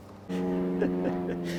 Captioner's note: airplane engine roaring; chuckling